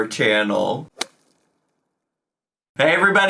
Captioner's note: logo thuds